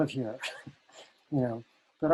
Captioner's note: laughing